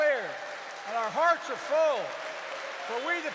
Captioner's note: applause